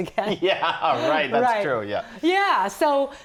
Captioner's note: laughing